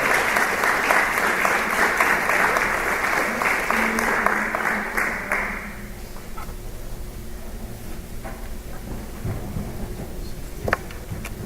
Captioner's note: applause